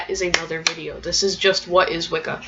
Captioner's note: clapping